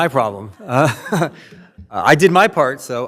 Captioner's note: laughs